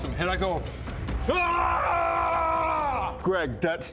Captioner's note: hrraargarghghhggghghghhhrrghgrghhh!!!